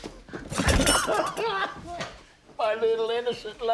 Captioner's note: sobbing